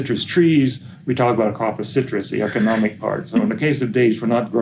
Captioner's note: laughing off screen